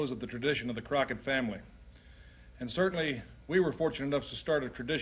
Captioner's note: none